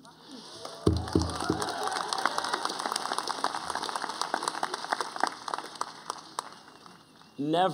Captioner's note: applause